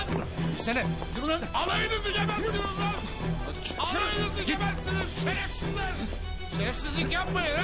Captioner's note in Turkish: kavga sesleri̇